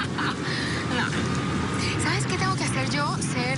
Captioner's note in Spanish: Risas